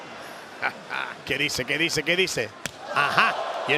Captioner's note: laugh